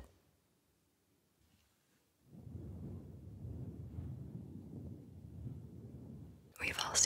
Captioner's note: mic brushing